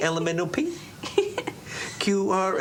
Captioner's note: Lulu chuckles